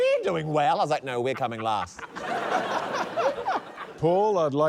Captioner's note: laughter